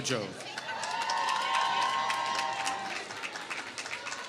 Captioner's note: applause